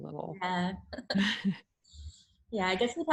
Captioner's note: chuckles